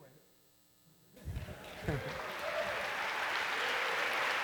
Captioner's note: applause